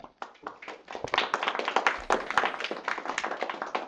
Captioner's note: group applauds